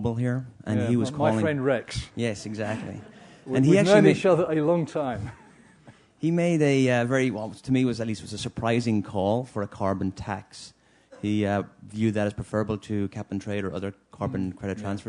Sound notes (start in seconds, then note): 5.2 laugh